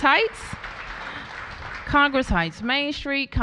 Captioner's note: applause